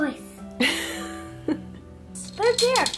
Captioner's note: laughs